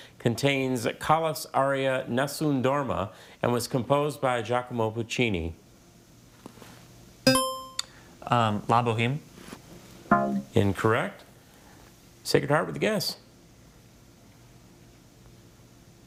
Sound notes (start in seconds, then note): 7.3 buzzer chimes; 10.1 scoreboard buzzes